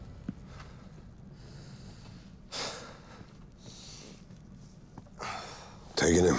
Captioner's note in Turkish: Derin nefesler alıyor